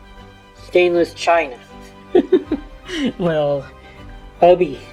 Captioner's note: chuckles